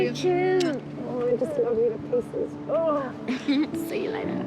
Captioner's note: groans